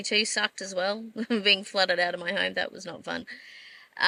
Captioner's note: scoffs